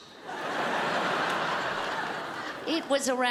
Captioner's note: crowd laughs